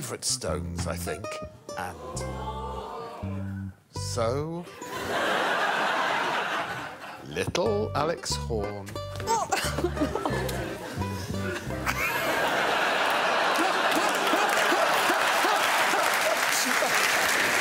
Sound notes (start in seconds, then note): 4.7 audience laughing; 14.8 audience laughing